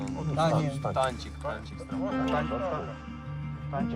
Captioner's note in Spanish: audio hablado en ucraniano